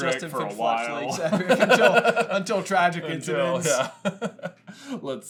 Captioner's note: laughter